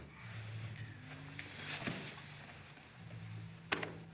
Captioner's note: soft shuffling